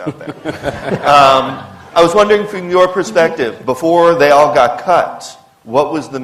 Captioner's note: laughter